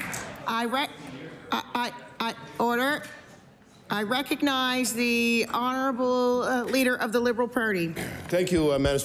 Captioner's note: applause